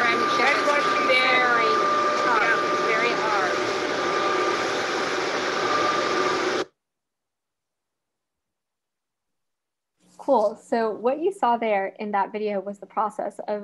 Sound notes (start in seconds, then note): 5.9 silence